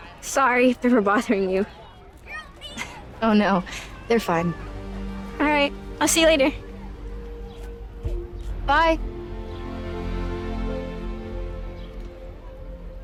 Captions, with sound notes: - Sorry if they were bothering you. (Anya laughs) - Oh, no, they're fine. - All right, I'll see you later. - Bye. (slow orchestral music)